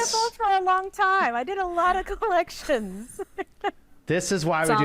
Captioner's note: laughs